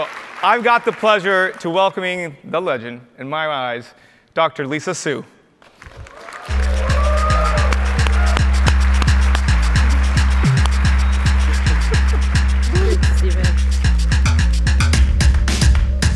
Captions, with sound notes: So I've got the pleasure to welcoming the legend, in my eyes, Dr. Lisa Su. (audience cheers) (upbeat music)